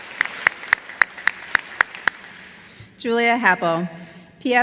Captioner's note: applause